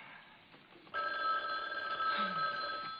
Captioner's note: phone rings